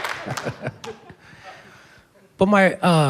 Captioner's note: chuckles